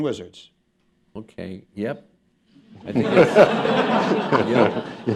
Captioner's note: laughter